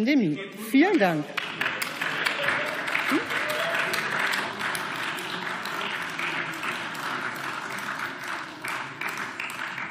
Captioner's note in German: Beifall